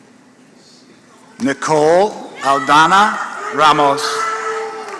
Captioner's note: applause